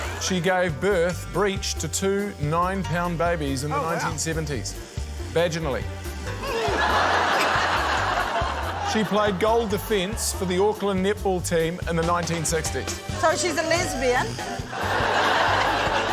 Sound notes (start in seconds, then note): 6.2 laughter; 14.6 laughter